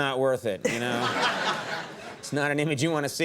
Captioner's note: audience laughing